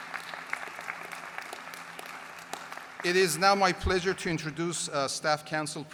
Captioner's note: applause